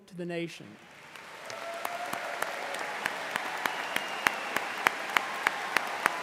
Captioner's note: audience cheering and applauding